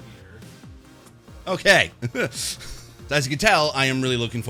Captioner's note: laughs